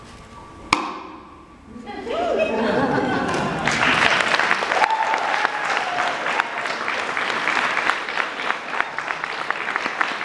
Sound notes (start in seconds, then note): 2.0 laughter; 3.2 applause